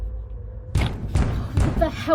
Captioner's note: door knocking